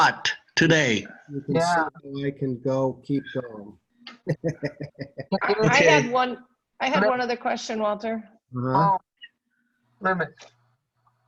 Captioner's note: laughter